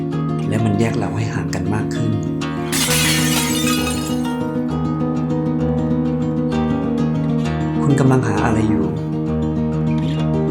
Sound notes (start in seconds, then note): 2.6 falling Plates crashing